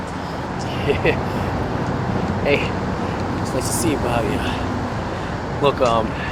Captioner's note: laughs